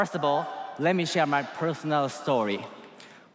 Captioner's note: cheers and applause